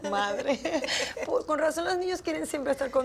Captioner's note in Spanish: Risas